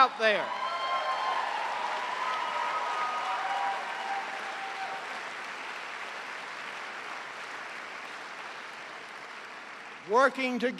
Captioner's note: cheers and applause